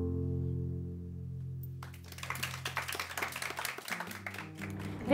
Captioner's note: applause